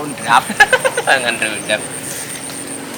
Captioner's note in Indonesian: ketawa